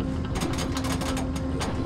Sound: metal clangs

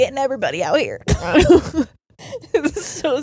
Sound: both laughing

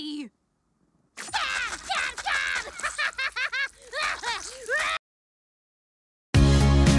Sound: laughs

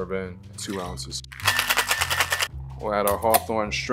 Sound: ice clattering

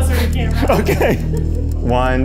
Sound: laughing

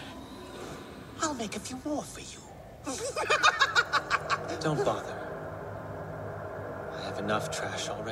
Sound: ugly ass laugh

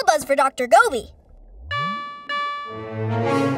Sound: beeping

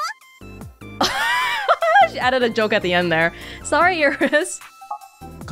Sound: chuckles

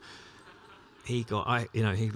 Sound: laughter

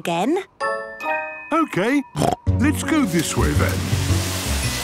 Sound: snorting

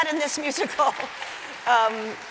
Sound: applause

